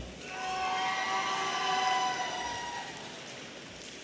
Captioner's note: audience cheering